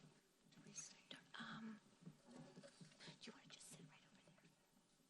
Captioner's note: ladies whispering